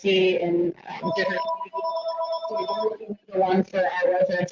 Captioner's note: phone ringing